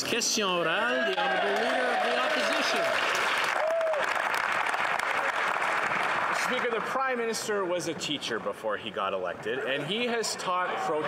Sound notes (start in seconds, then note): 0.0 some Applause; 2.3 speaking French; 5.3 some Applause